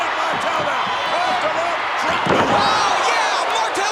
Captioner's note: crowd cheering drowns out Vince